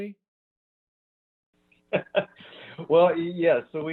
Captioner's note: laughs